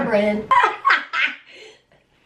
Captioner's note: laughing